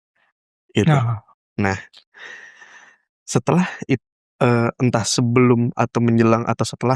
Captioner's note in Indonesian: terkesiap